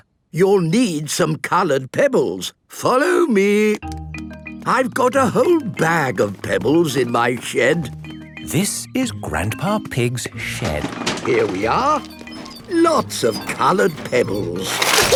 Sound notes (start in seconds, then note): 10.2 bangs and rattles; 14.9 laughing